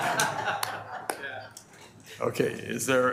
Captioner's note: board laughing